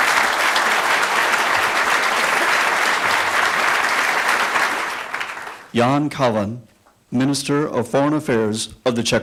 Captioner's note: applause